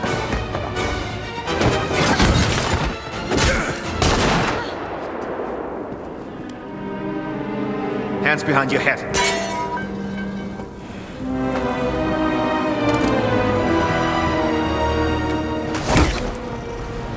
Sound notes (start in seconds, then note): 2.0 music intensifying; 4.0 gunshot; 4.0 Gina grunts